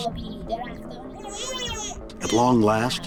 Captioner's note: speaks in foreign language